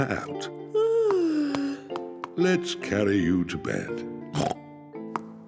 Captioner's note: yawns